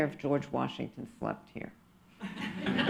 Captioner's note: laughter